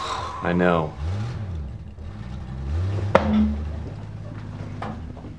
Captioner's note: engine rumbling